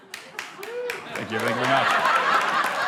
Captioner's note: man whoops and claps